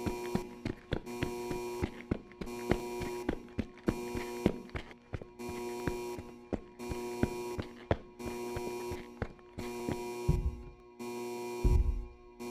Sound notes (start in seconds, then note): 4.8 footsteps